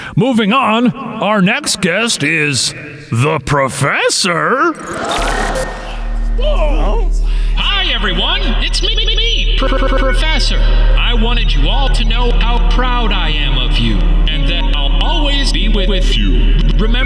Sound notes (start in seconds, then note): 4.8 static crackling; 9.7 stuttering and glitching